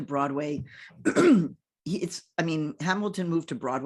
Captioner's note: clears throat